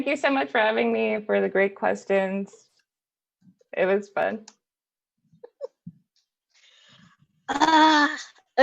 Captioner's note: laughs